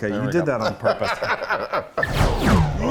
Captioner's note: laughing